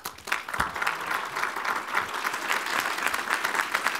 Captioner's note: applause